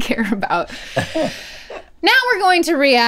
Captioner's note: Rhett laughs